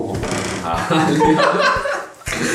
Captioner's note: laughter